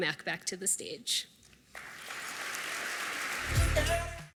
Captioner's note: applause